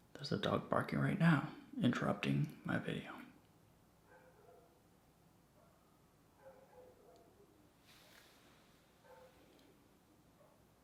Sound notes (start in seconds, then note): 4.5 dog barking